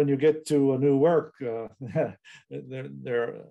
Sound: laughs

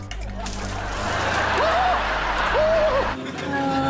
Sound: shrieking

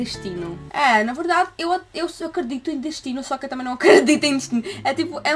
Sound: laughter

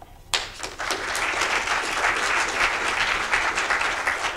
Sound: audience applauding

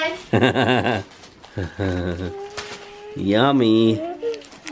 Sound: laughs

